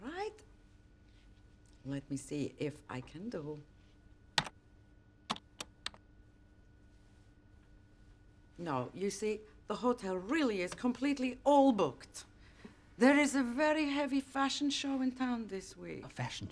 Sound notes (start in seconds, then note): 5.3 keyboard clicks